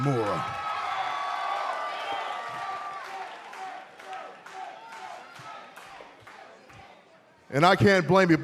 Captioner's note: cheers and applause